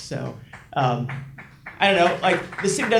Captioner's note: audience members clapping